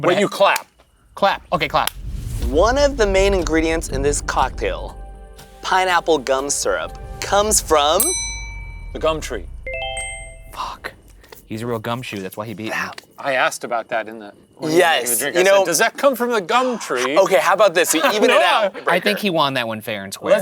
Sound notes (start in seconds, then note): 7.2 bell chiming; 9.8 bright ascending music